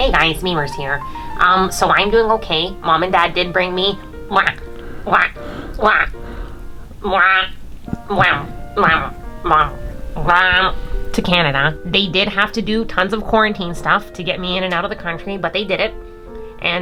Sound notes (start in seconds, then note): 4.1 funny licking sounds